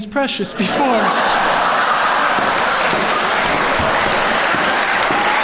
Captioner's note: laughter and applause